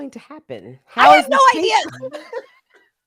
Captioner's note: laughs